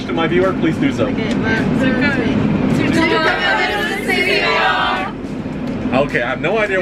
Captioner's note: unanimously in foreign language